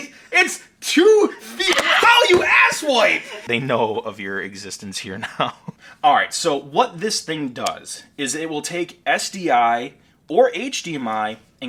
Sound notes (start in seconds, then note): 1.5 screaming